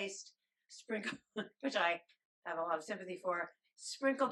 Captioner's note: chuckles